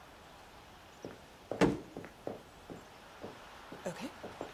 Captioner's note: footsteps clacking